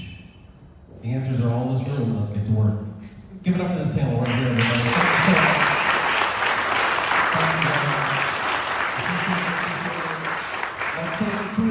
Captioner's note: applause